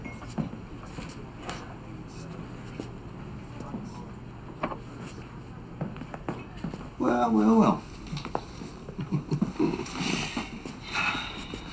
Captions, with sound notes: - Well, well, well. (chuckles)